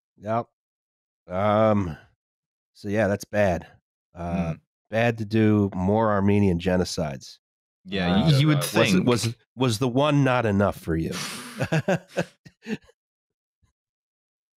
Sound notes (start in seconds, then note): 11.1 blows out a breath; 11.1 laughs